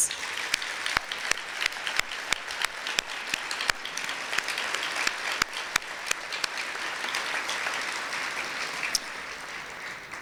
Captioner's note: applause